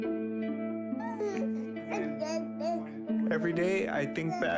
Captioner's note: baby gurgling